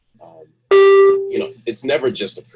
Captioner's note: beep